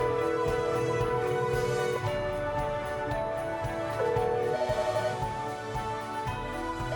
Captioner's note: soaring upbeat music; phone ringing